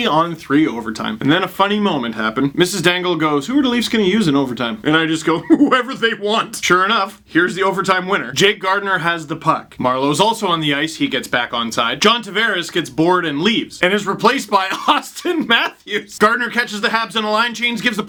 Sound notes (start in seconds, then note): 5.3 incredulous laugh; 14.6 laughs